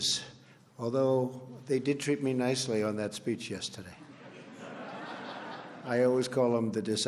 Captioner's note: laughter